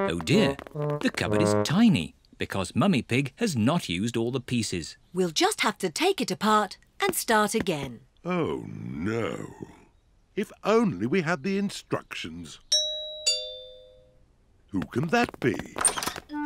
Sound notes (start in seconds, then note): 12.7 doorbell rings